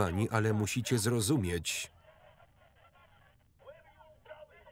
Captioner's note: angry voices in background over walkie talkie